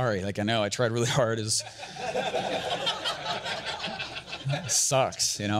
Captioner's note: audience laughter